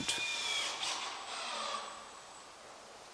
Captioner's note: drilling noises